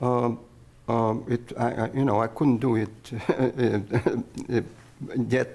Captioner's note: laughs